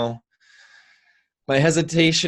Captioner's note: sighs